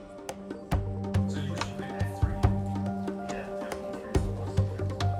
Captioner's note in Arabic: ثرثرة اللجنة